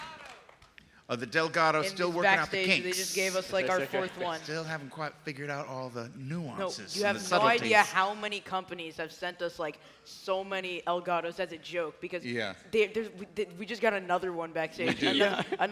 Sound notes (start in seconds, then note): 0.0 cheers and applause